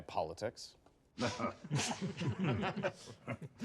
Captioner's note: chuckles